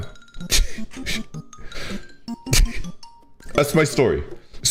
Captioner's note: chuckles